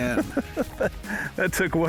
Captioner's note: laughs